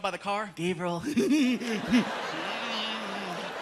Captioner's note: laughing maniacally